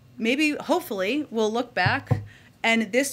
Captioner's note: knocks on podium